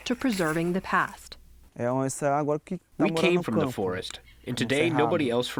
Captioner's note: through translator